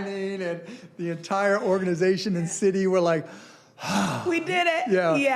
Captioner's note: exhaling